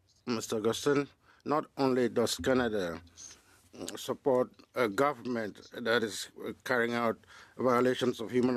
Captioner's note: speaking French